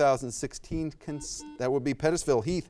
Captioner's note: buzzer buzzes